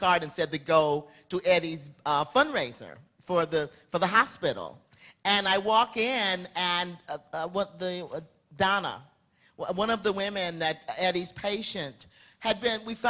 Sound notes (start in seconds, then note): none